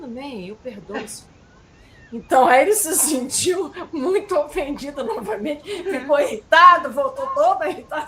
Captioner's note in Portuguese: risadas